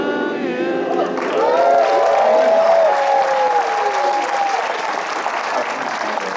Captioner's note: applause